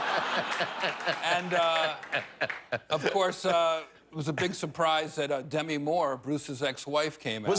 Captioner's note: laughter